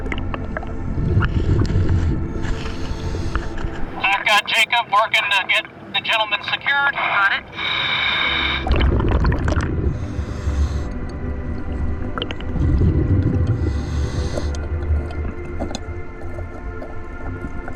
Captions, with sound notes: I've got Jacob working to get the gentleman secured. - Got it. (audible breathing)